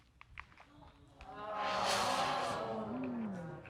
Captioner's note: crowd groans